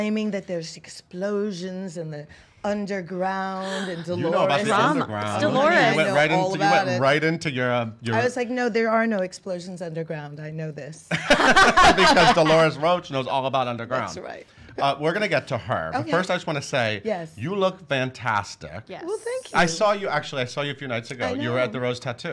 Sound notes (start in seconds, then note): 11.1 laughing loudly